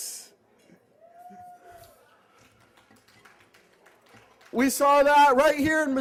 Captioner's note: applause